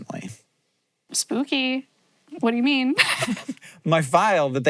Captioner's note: laughs